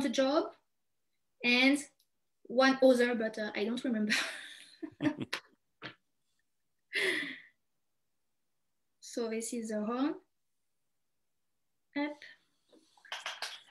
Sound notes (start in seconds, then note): 4.8 chuckles